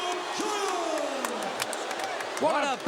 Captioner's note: crowd boos